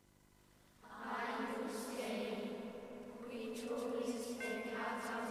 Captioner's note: children chanting